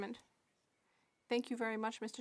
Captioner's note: speaking French